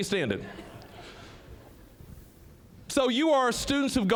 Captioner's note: audience chuckling